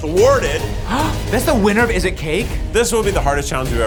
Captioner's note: gasps